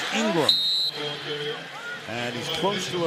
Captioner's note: whistles